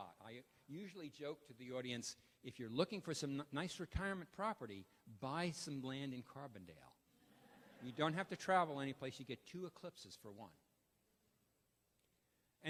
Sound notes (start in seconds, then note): 7.2 laughter